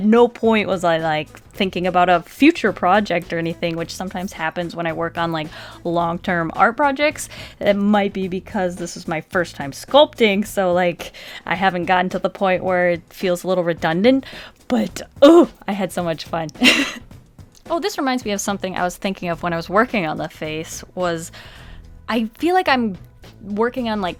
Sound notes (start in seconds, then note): 16.4 happy sounds